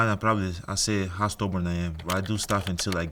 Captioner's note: keyboard clicking